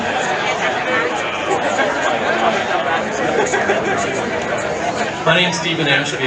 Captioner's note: indistinct chatter from audience continues